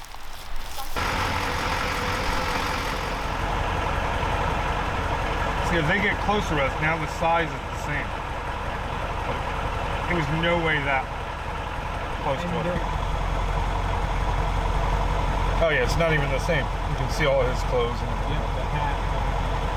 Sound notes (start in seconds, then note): 0.0 leaves rustling; 0.3 truck rumbling; 13.0 truck rumbling